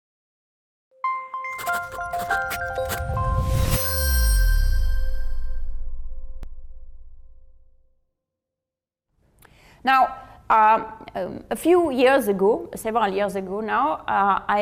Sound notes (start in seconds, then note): 1.5 sound effects playing